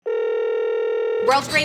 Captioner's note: phone Ringing